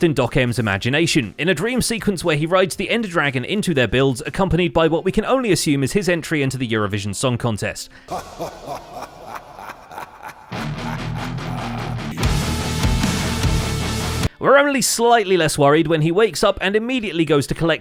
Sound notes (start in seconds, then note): 8.1 cackles over heavy metal